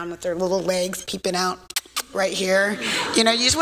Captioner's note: kissing sound